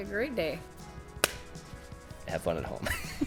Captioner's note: hands slap; chuckles